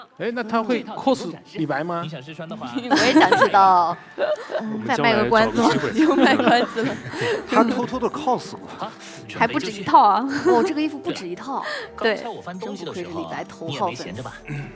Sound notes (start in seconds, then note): 2.5 laughs